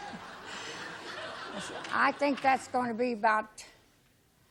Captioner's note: laughter